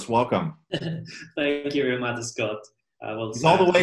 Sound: laughs

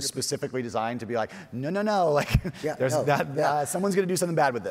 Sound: chuckles

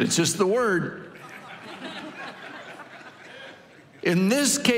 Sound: congregation laughing

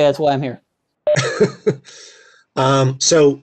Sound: laughs

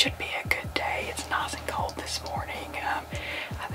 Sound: whispering

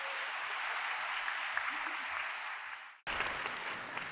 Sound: applause

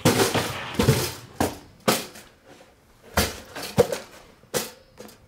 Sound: toaster rattles

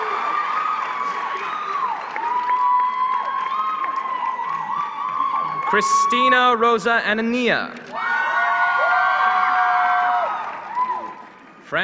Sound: applause

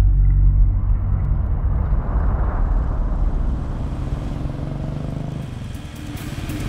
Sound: car Sound

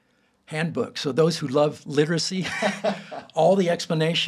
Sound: both laughing

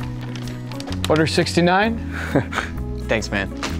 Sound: jaunty music; chuckles

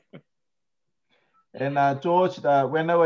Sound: laughs

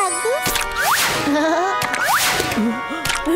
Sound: chuckles; dramatic orchestral music

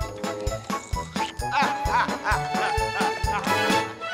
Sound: laughing

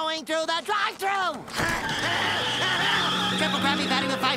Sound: screaming

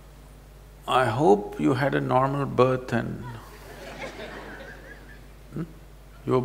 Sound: few laugh

